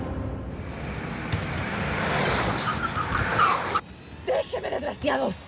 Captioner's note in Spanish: ruido de los autos